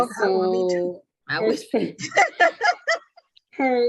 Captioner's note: laughing